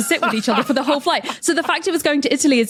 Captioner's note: laughs